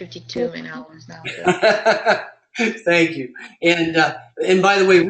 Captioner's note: laugh